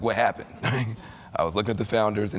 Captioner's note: laughter